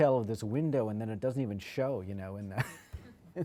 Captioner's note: laughs